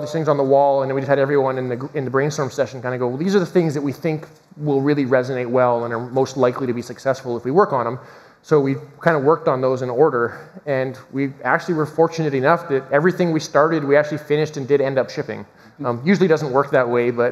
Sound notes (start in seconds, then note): none